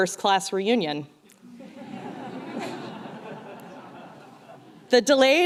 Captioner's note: laughter